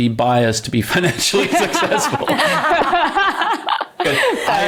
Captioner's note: laughs